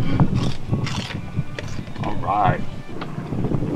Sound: crunching

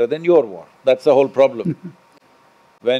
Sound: Manish Laughs

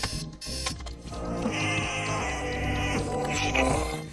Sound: yawning

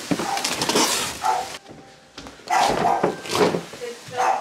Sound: box moving

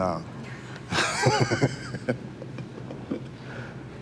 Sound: laughs

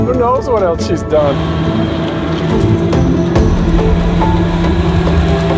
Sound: engine rumbling

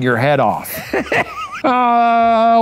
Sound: laughs

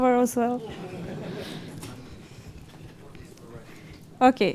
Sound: laughter

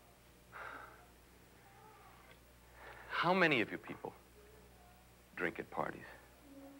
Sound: sighs

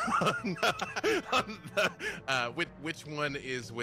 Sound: laughs

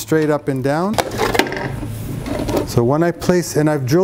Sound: pipe clanks

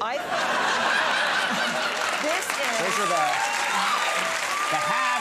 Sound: applause

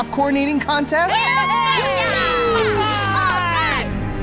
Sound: everyone cheers

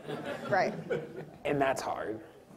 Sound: audience laughs

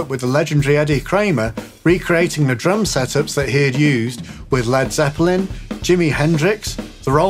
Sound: none

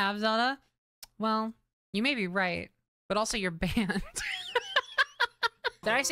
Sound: laughter

